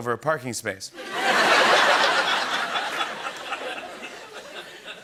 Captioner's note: laughter